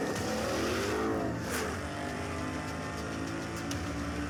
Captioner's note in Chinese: 轮胎烧胎; 汽车引擎快速运转